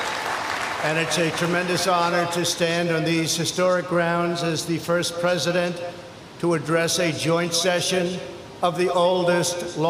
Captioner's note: applause